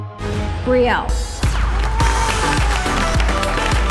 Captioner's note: applause